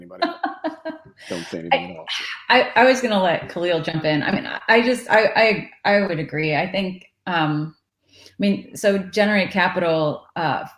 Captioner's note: laughs